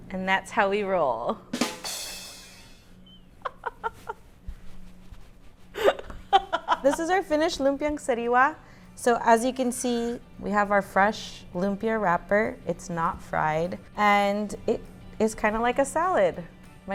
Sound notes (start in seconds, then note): 3.4 laughs